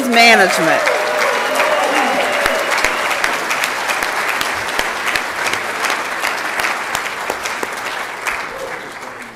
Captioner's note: applause and Cheering